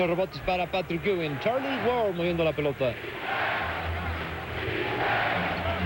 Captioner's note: crowd chanting "Defense"